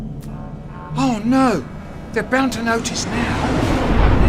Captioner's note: echo